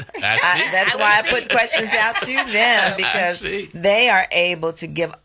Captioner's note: laughs